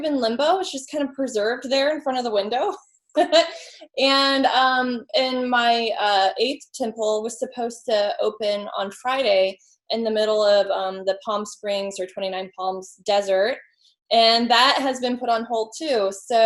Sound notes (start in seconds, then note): 3.2 laughs